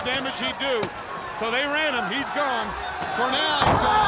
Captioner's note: body thudding